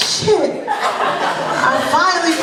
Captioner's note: laughter